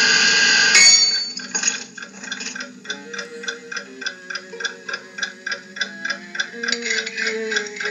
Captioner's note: ding; clock Ticking